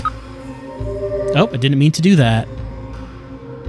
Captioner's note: electronic fade-out